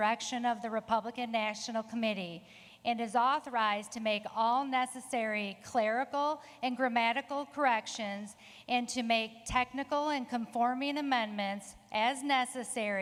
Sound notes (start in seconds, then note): none